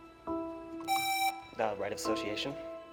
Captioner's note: presses buzzer